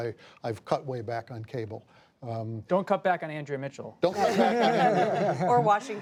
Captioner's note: laughter